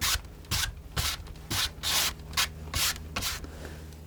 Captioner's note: scratching